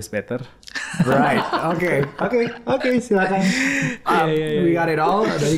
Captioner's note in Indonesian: tertawa